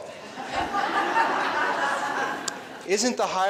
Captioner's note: laughing